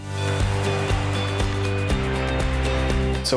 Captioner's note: traffic noise